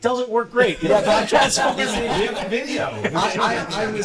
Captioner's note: laughter